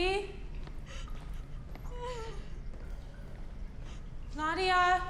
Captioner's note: Nadia cries